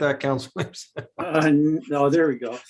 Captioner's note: laughs